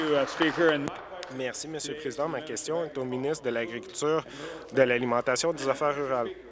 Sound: applause; cheers

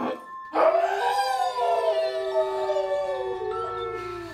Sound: wolf howls

